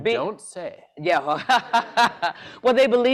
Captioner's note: laughter